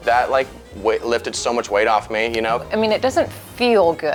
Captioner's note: none